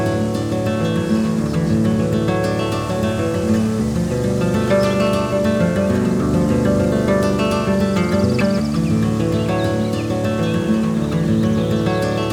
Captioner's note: birds chirp and the wind blows through leaves